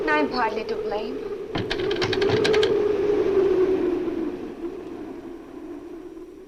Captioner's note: window shutters rattle